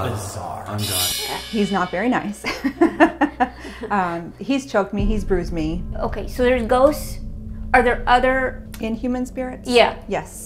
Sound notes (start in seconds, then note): 2.4 laughing